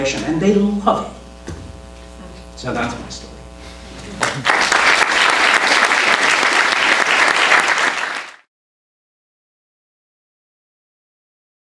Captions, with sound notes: and they love it So that's my story. [APPLAUSE]